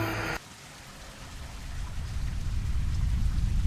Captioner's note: water splashes